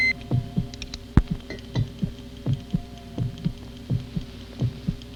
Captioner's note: beeping; heartbeat thumping